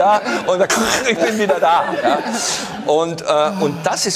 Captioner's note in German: Röcheln